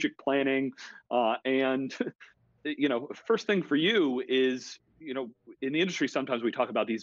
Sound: laughs

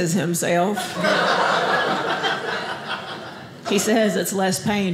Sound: audience laughing

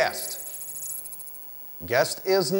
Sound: computer noises play

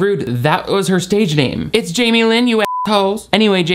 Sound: beep

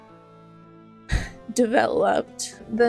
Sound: sigh

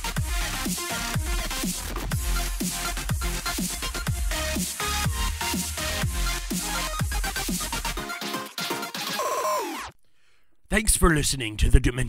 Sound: in a character voice

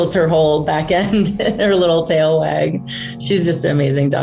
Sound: laughs

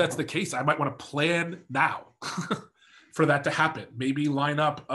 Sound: laughs

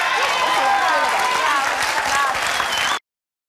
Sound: audience cheering

